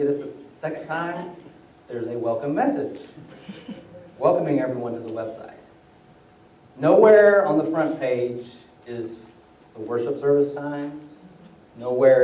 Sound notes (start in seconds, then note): 3.3 laughter